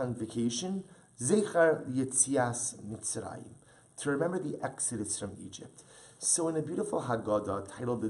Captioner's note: Hebrew